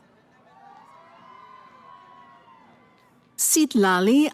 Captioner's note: cheering